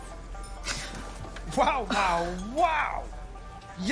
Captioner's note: gasps